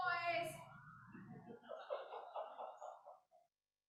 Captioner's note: laughter